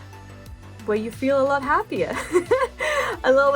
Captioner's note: laugh